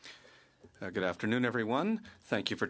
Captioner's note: speaking French